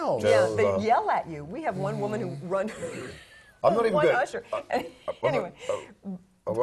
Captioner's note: laugh